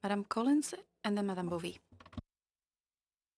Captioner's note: speaking French